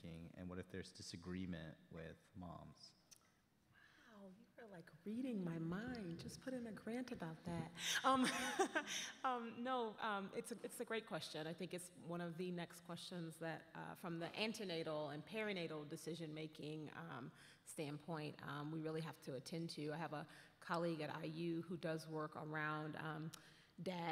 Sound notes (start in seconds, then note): 8.1 chuckles